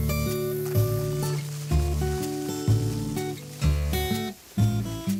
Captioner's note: dirt rattling